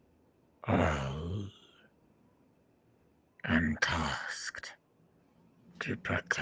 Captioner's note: heavy voice